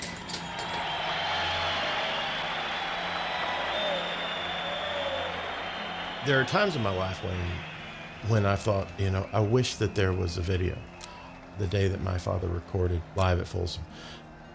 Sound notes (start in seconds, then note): 1.9 keys and doors rattle; 4.5 cheers